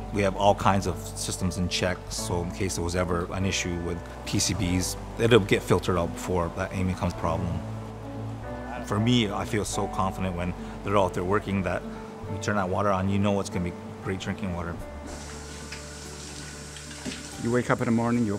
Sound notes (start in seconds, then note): 14.9 gentle music; 15.0 water running